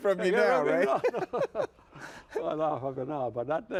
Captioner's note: laughs